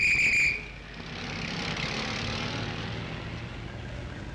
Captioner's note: whistle blows; car engine roars